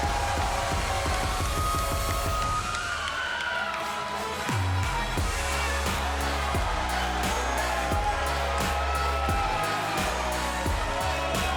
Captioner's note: crowd cheering